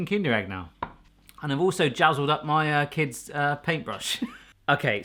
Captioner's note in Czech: smích